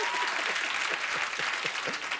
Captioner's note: cheers and applause